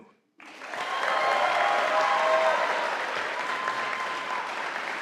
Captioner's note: audience applauding